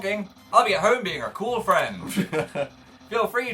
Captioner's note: laughs